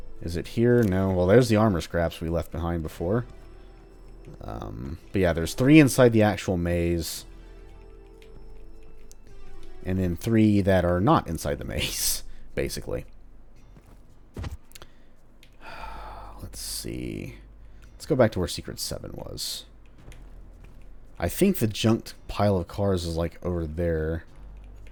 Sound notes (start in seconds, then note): 12.6 chuckles; 15.6 sighs